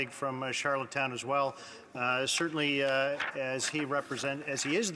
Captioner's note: speaking French